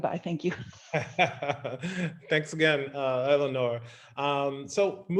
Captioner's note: laughs